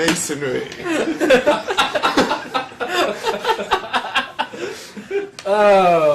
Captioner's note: laugh